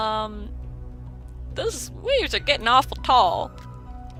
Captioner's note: terrible pirate accent